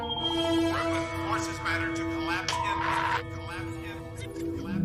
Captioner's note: with static